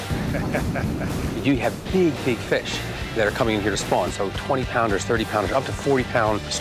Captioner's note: laughs